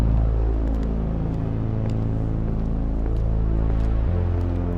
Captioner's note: footsteps clack